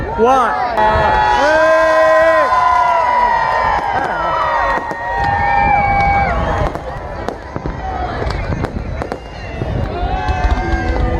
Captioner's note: new year fire works going on